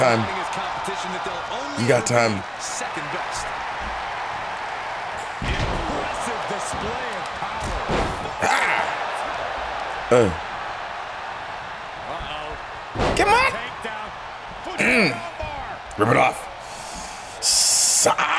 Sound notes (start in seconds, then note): 4.8 applause